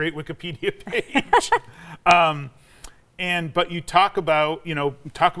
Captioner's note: both laughing